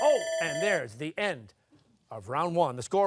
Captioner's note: timer sounding